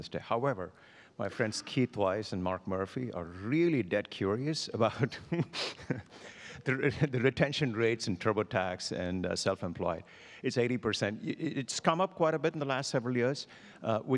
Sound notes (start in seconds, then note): 5.0 laughs